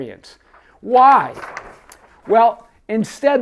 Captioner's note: paper rustles